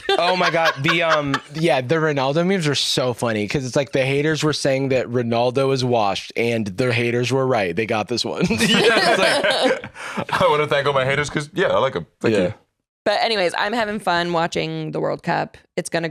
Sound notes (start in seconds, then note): 8.4 all laughing